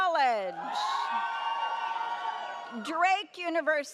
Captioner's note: audience cheers